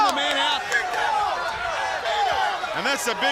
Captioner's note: crowd chatter